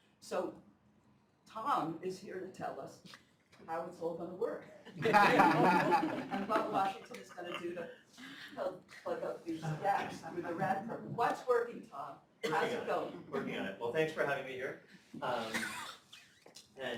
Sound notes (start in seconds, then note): 4.9 laughter